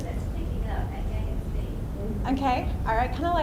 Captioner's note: voiceover